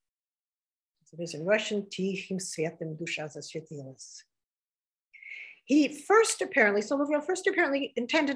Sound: speaking russian

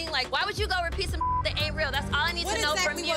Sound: beep

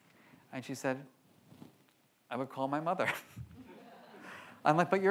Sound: laughs

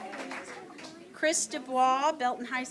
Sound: applause

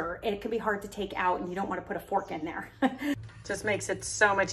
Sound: chuckling

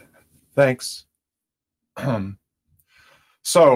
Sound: clears throat

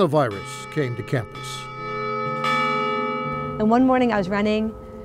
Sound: bell ringing

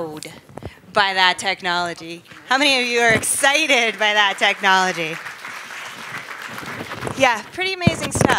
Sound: applause

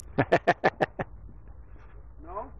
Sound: laughs

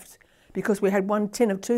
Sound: none

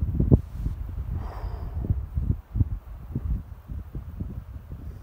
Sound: sighing

